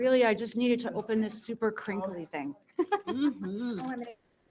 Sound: laughs

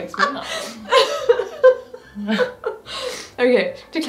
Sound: laughing

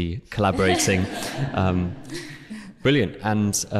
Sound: chuckles

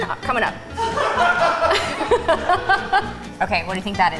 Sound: laughing

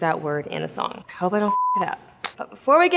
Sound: beep

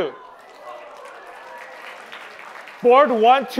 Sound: applause

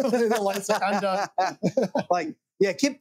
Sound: laughing

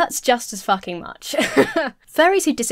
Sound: laughing

